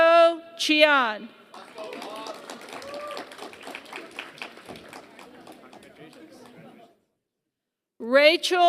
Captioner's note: applause